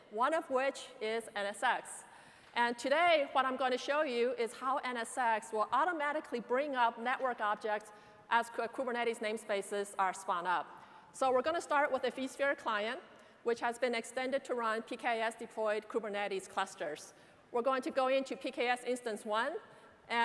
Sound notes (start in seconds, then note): none